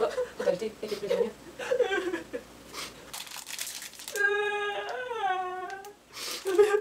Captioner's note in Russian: плачет